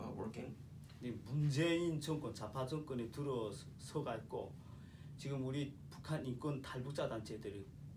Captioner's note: speaking korean